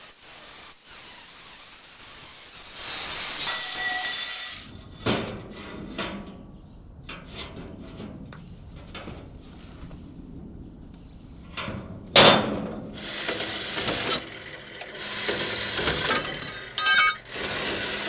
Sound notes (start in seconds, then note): 1.3 metal grinding; 6.4 metal clanking; 14.2 metal rattling